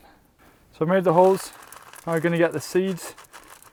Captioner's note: beans rattling